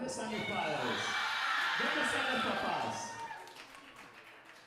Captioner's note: speaker speaking Spanish